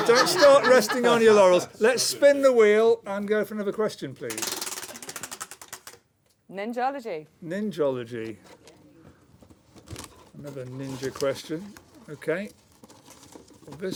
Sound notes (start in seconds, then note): 4.3 ratcheting